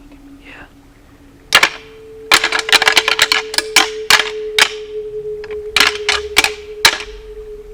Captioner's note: sound of rattling